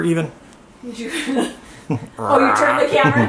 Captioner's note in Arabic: يضحك